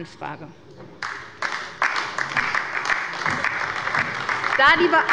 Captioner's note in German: Beifall bei der SPD und der LINKEN